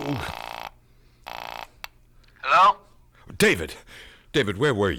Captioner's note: phone ringing